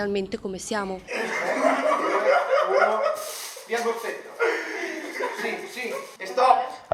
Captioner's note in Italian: Risate